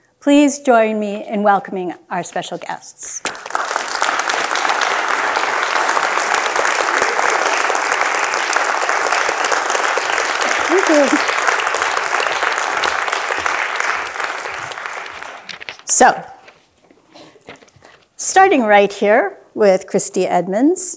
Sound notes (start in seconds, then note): 3.6 audience applauding